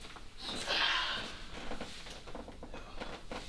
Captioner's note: exhales